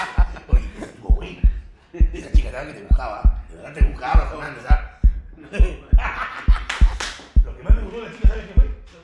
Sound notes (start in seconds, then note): 0.1 heartbeat; 5.7 laughs